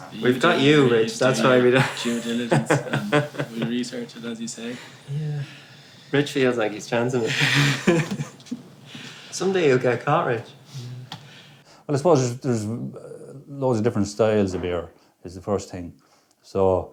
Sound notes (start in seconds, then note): 1.9 laughs; 7.7 laughing